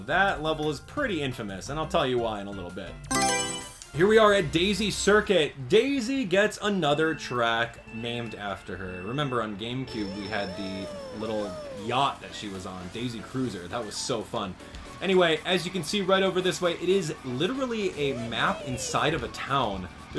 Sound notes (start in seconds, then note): 3.1 Mario Selection Sound